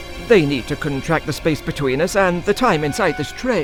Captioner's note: frequency of the clock ticks